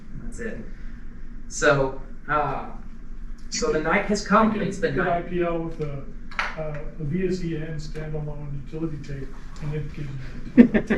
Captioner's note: audience comment on something - laughter